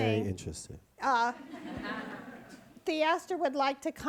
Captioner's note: audience laughs